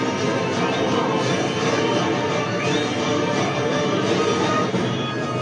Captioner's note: eerie carnival music; metallic roaring; music distorts